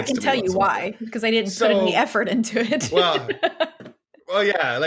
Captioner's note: laughs